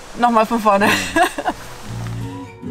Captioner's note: laughing